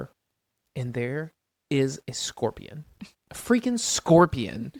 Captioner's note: laughs